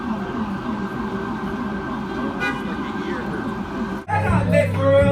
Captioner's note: honking